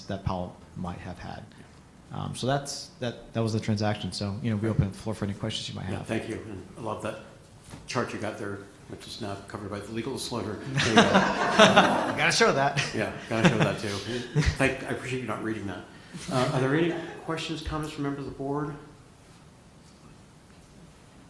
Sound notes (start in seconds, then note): 10.6 laughter